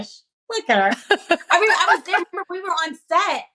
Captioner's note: chuckles